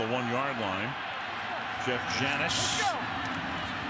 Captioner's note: onfield chatter